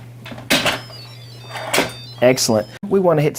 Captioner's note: cheerful beeping